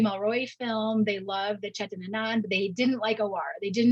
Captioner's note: speaks in Hindi